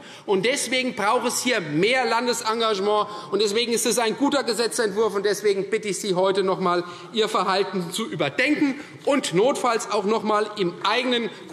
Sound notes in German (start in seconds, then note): none